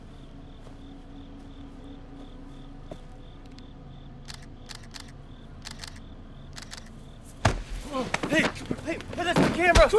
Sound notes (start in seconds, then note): 3.8 camera shutter clicking